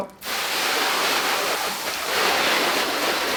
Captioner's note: water gushing